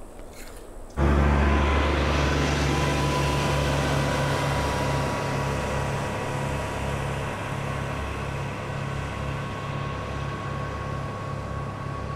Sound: apple crunching; ATV engine noise

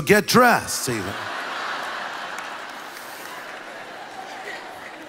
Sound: congregation laughs

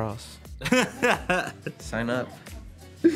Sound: laughing

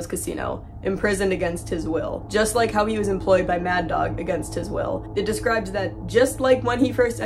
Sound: dark droning sound

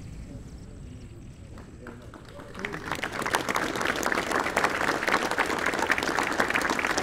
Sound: applause

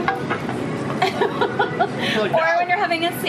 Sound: laughing

